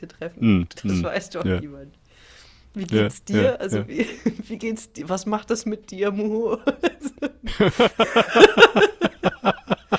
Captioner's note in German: gelächter